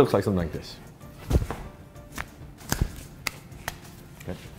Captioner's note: arms smacking together